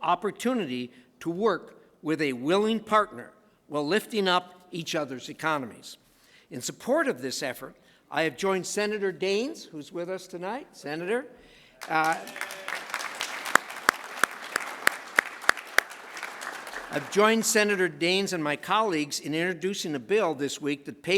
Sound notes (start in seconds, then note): 11.8 applause